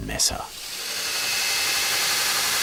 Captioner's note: rattling